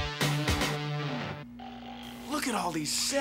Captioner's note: snoring